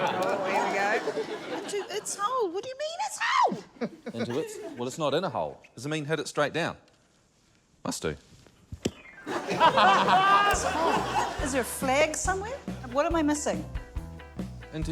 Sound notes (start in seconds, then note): 9.2 laughter